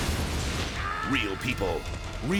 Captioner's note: person screaming